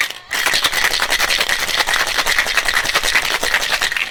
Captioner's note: ice shaking